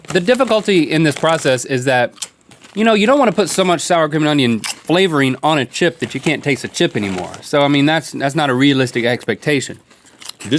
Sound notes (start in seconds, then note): none